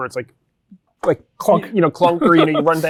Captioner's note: laughing